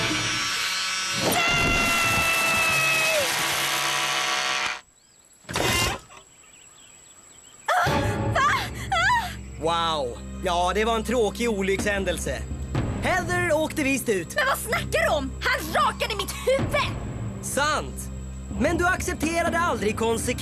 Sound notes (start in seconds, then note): 3.9 buzzing stops